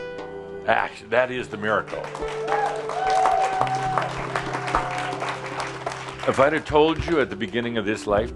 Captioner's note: audience applause